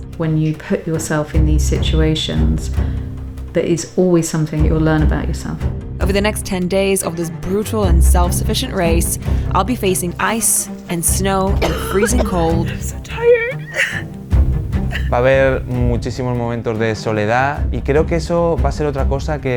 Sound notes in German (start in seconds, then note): 11.5 hustet; 14.0 weint